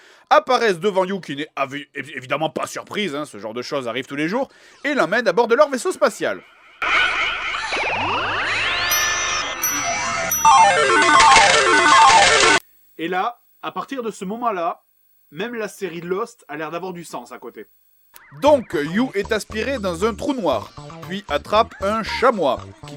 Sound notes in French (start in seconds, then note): 6.9 bruitages magiques; 8.7 ding; 10.3 bruit de victoire de machine à sous